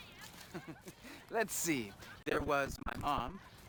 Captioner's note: chuckles